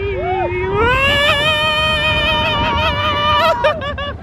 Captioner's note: all screaming